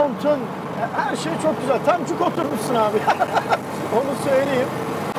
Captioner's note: laughing